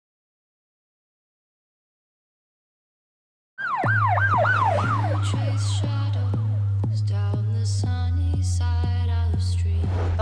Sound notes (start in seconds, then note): 3.6 sirens wailing